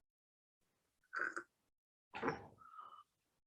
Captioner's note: sighing